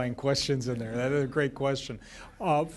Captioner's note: laughter